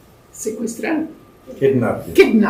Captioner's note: spanish